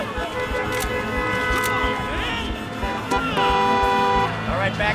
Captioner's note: horns honking